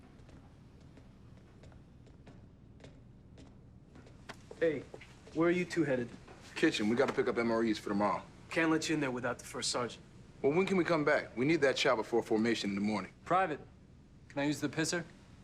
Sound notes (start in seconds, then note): none